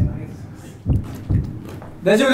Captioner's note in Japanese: 効果音 ドックン・ドックン・ドックン・ドックン・ドックン・ドックン・ドックン・ドックン・ドックン・ドックン・ドックン・ドックン・ドックン